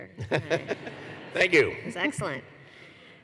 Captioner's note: laughter